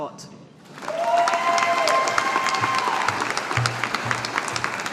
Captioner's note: audience applauding